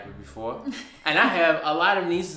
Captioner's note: laughs